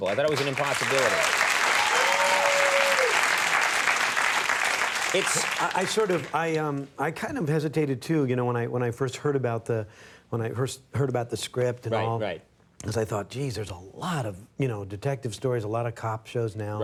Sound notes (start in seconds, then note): 0.0 audience applauding